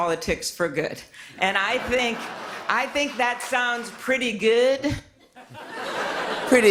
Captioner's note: laughter